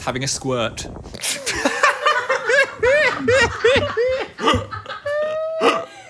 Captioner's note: laughing